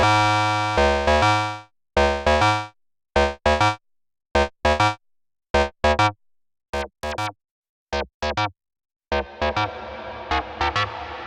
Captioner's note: alarm beeping